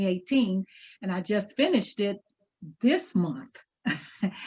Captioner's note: chuckles